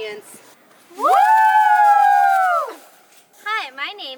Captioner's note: audience Cheers